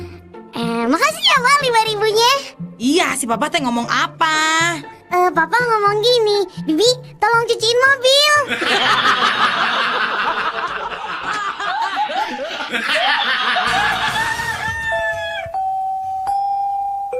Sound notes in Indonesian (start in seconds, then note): 8.4 tertawa